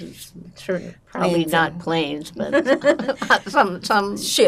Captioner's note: laughing